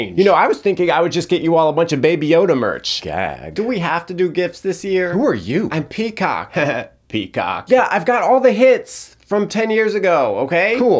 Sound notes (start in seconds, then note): 6.8 laughs